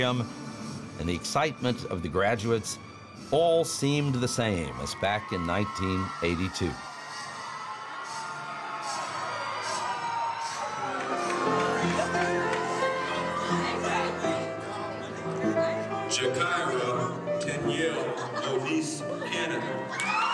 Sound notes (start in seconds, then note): 8.0 audience cheering; 13.2 playing gentle piece